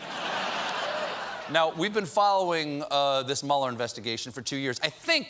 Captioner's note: laughter